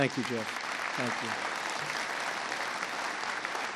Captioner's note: applause